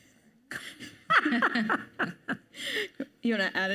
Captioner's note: panelists laugh